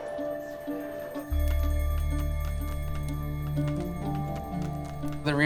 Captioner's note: fan flapping